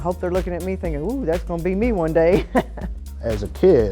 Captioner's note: laughs